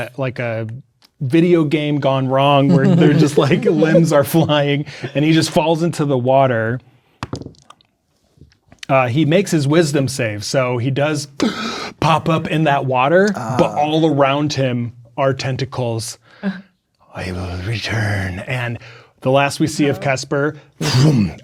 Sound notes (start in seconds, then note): 7.2 dice rolling; 13.3 gasps